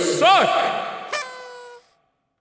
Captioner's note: party toots